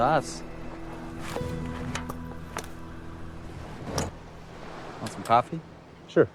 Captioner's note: notebook rustling